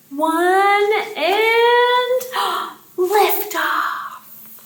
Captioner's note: gasping